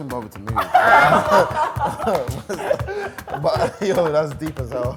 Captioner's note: laughing